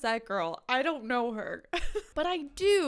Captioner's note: chuckles